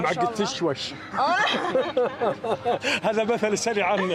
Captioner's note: laughing